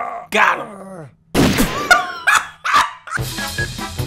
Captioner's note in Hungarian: Röhögés